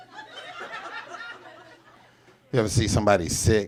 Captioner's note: audience laughs